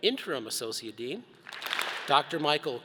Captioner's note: all clap